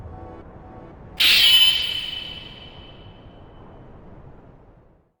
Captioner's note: wind whooshing